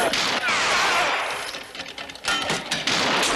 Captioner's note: yells